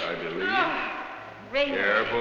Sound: grunting

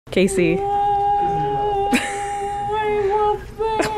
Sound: crying; laughing

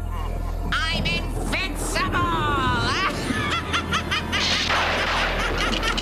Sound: laughs; thunder clapping

